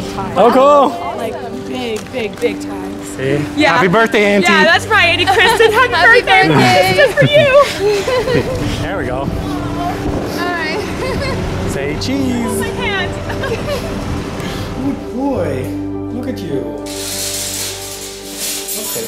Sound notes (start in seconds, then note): 13.6 laughter